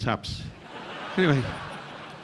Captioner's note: audience laughing